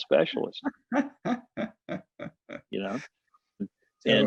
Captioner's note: laughing